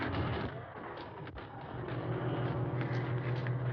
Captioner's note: banging